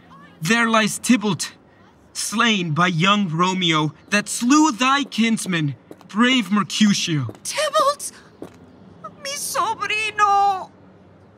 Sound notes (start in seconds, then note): 5.6 footsteps